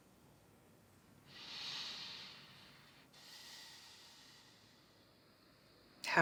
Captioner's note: inhaling & exhaling